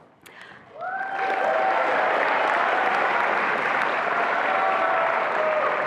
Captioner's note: attendees applauding and cheering